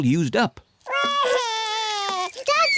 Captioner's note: wails